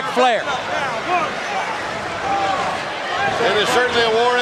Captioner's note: crowd cheering